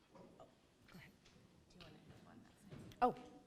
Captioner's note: whispers